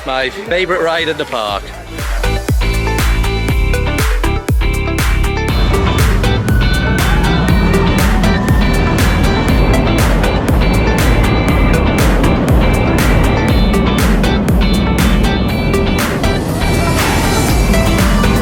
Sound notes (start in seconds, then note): 2.0 bright upbeat music; 5.6 ride wheels skidding